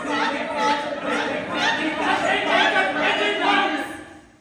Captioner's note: GIANETTA, shouting; TESSA, shouting; MARCO, shouting; GIUSEPPE, shouting